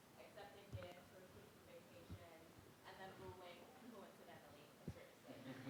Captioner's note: student speaking faintly